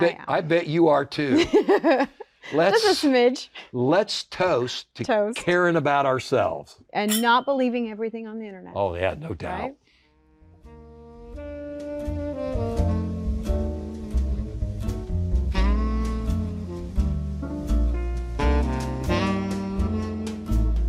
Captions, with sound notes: I bet you are too. Let's- - Just a smidge. - Let's toast to caring about ourselves. (glasses clicking) - And not believing everything on the internet. - Oh yeah, no doubt. - Right? (jazz music)